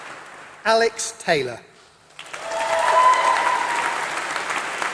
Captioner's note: applause